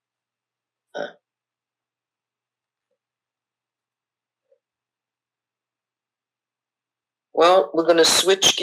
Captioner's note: pauses 6 seconds